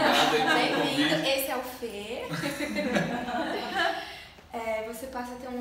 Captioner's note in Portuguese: risos; risos